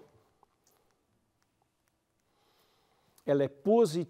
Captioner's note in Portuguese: pausa sonora